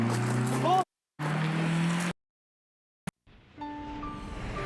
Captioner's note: muted